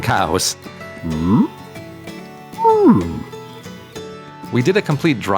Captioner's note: mooing noises